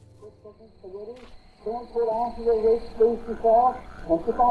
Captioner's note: TV muttering